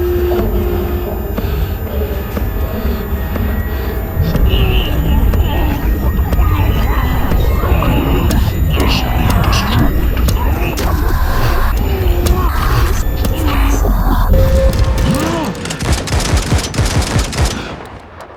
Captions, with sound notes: The enemy... [voices echo and distort] [grunting in pain] ...must be destroyed.